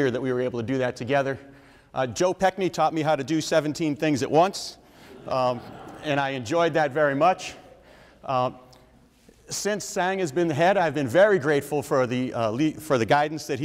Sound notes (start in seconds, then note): 5.0 audience members laugh